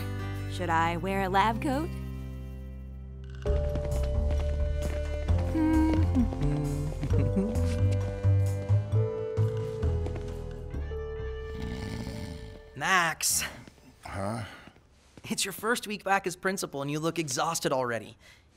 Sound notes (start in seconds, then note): 5.4 hums; 11.5 snoring